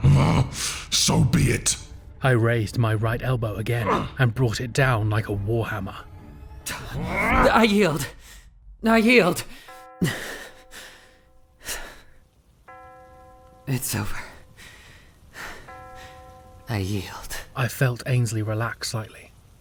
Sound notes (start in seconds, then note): 7.2 host yell, cut off; 11.0 SFX clock strikes midnight